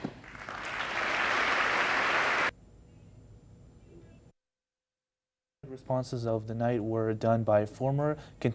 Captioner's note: applause